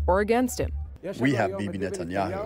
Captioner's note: through translator